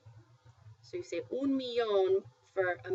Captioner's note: spanish